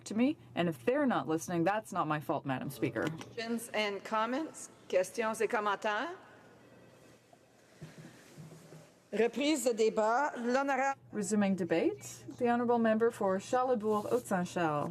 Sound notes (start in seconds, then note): 12.8 speaking French